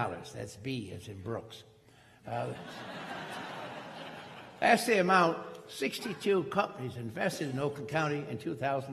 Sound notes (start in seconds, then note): 2.3 crowd laughing